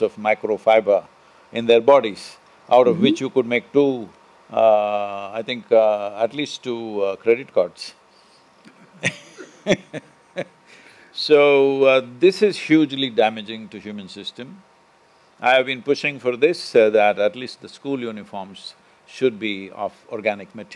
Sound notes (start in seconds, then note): 8.7 both Laugh